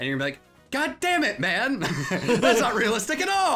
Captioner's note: laughing